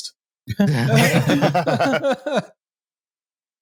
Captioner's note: laughter